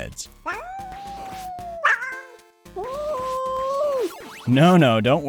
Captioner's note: terrified yowls; yowl